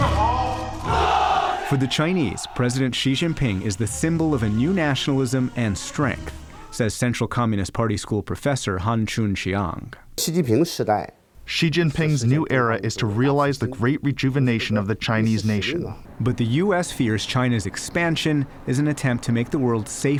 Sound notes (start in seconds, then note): 11.2 through translator